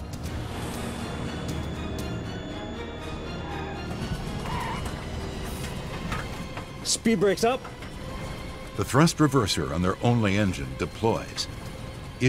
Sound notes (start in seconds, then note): 0.2 tense music; 3.5 braking